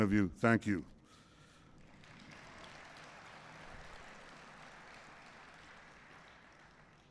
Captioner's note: applause